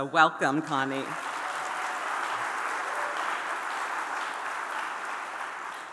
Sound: audience applauding and cheering

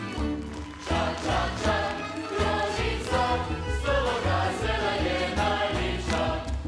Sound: audience applauding; choir singing

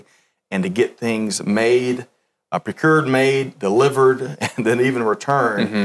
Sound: laughs

